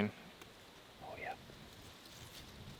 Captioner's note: whispering